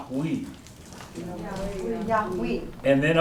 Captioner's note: speaking koi